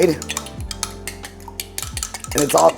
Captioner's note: spoon clanking